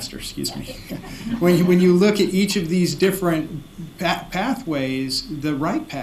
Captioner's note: laughter